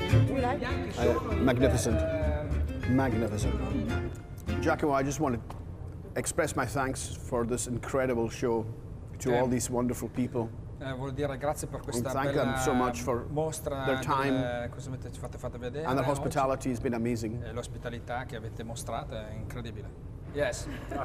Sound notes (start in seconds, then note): 10.9 speaking Italian; 17.6 speaking Italian